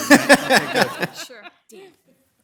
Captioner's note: group laughs